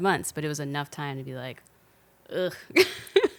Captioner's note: laughing